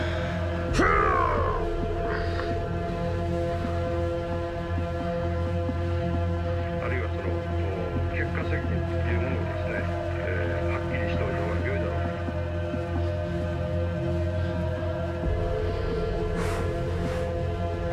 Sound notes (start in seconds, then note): 0.7 Sammy grunts; 7.3 television chatters